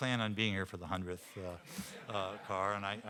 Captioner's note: audience laughing